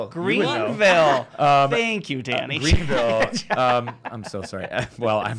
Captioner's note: laughs